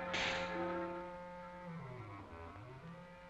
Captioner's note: snake hisses